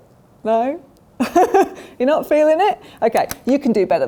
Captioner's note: laughs